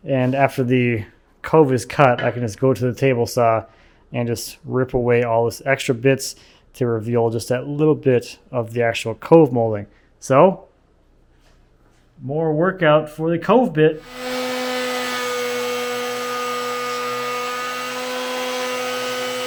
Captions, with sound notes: And after the cove is cut, I can just go to the table saw and just rip away all these extra bits to reveal just that little bit of the actual cove molding. So, more workout for the cove bit. (tool whirs)